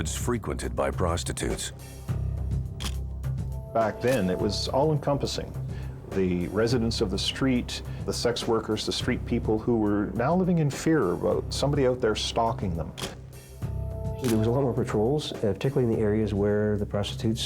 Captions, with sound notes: IN NEIGHBOURHOODS FREQUENTED BY PROSTITUTES. (camera shutter click) BACK THEN IT WAS ALL ENCOMPASSING THE RESIDENTS OF THE STREET, THE SEX WORKERS, THE STREET PEOPLE WHO WERE NOW LIVING IN FEAR ABOUT SOMEBODY OUT THERE STALKING THEM. (camera shutter click) THERE WAS A LOT OF PATROLS PARTICULARLY IN THE AREAS